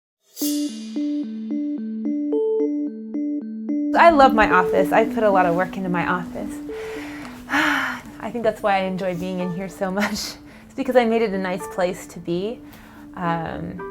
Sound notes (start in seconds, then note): 7.6 sigh